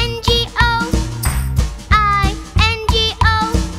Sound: clap; clap

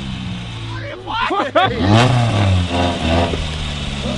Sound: yelling; laughing

